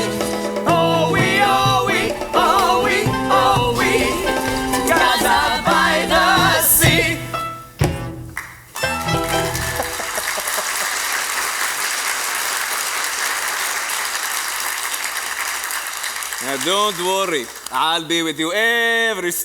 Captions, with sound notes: ISMAIL, YITZHAK & ENSEMBLE - OH-WEE, OH-WEE. OH-WEE. OH-WEE, GAZA, BY THE SEA. (Music out. Applause.) ISMAIL - Don’t worry. I’ll be with you every step of the way.